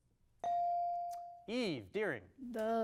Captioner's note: bell dings